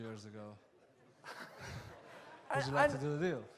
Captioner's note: laughs